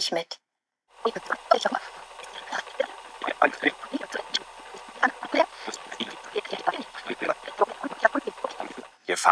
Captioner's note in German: Voice-over sehr schnell vorgespult